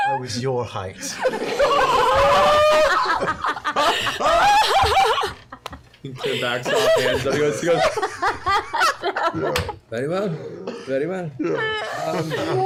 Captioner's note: laughter